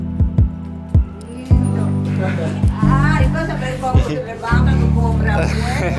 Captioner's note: speaking foreign language; man laughs